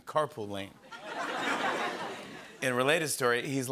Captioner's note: laughter